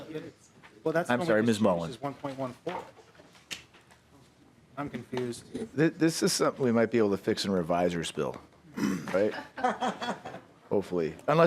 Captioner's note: laughing